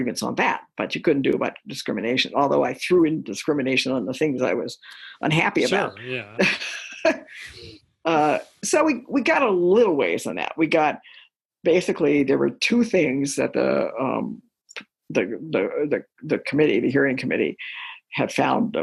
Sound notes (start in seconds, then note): 6.0 laughter